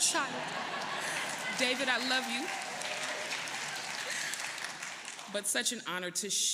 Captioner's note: laughter; applause